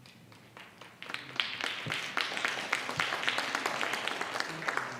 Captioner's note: audience applauds